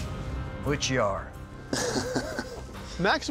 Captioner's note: laughs